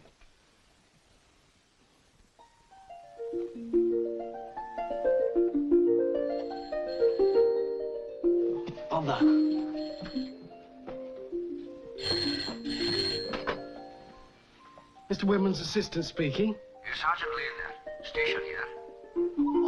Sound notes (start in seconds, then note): 2.7 gentle harp music; 6.2 telephone rings